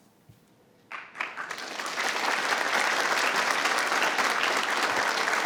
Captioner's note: attendees applauding